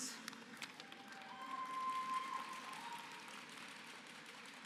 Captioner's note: applause